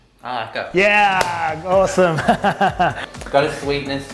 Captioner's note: chuckles